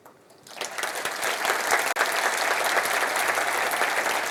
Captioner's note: applause